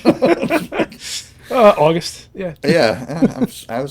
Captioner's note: laughing